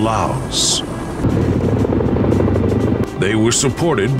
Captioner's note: blades whirring